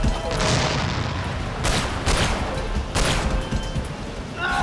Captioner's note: gunshot